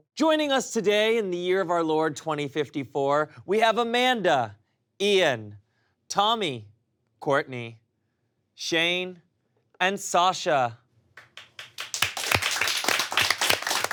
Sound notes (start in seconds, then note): 11.2 applause